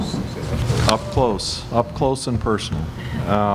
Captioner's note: positioning microphone